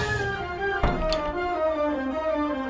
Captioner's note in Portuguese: Rangido de porta abrindo e fechando